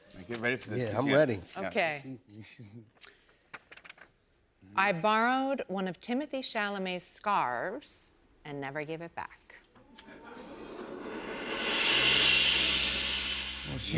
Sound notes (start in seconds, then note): 10.0 audience "Oohs"